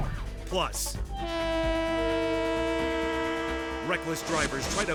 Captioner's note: train horn honking